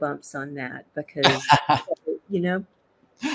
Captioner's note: laughs